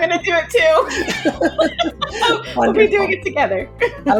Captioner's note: laughing